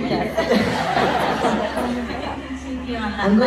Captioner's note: laughs